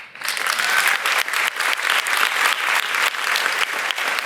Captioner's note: audience applauds